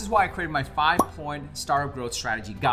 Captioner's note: graphic popping